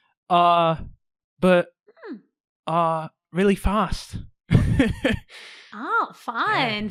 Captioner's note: awkward laugh